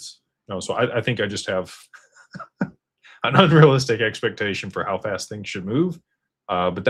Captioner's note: laughter